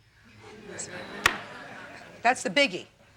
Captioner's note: audience laughing